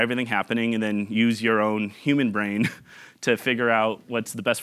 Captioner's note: chuckling